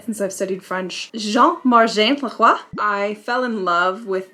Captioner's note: foreign language